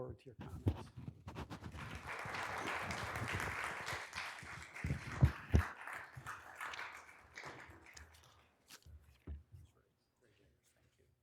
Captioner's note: applause